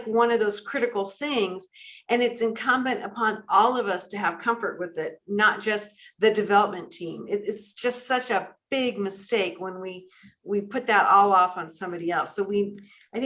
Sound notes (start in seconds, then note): none